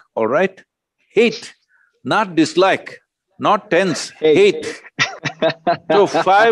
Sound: laughs

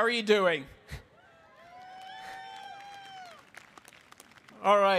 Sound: audience cheering; audience applauding

